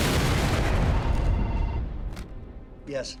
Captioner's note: phone rings